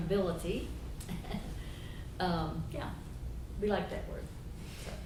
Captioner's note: chuckles